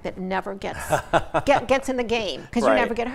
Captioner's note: laughs